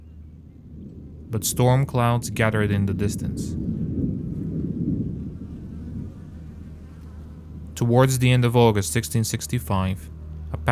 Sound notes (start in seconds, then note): 3.3 thunder rumbling